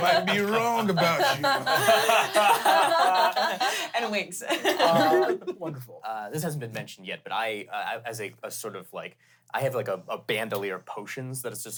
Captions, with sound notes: - I might be wrong about you. (everyone laughs) - And winks. (laughs) - Wonderful. - This hasn't been mentioned yet, but as a sort of, like, I have a bandolier of potions